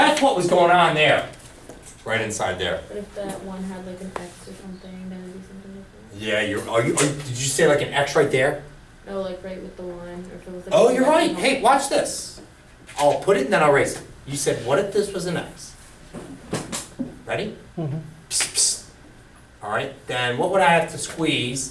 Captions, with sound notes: So that's what was going on there, right inside there. - [Voiceover] If that one had an X or something, then it-- - Did you say an X right there? - [Voiceover] No right with the line. - Oh you're right, hey watch this. I'll put it and then I'll erase it. You said what if this was an X. Ready, all right then what would I have to squeeze,